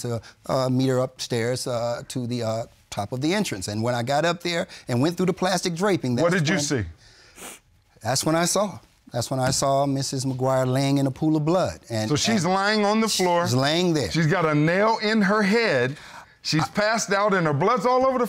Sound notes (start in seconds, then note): 7.2 sniffling